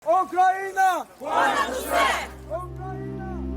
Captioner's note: crowd chanting in Ukrainian; somber music